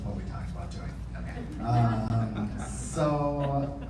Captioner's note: audience laughing